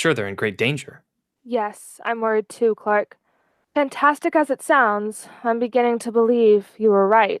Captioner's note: sighs